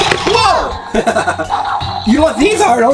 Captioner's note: high pitched motor accelerating; laughs